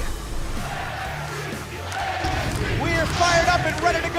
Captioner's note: crowd cheering